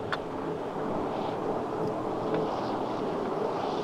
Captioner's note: engine humming